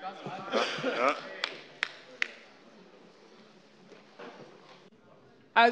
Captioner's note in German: Vereinzelter Beifall AfD